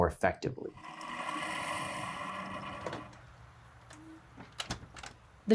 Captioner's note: coffee machine whirring; door clicking shut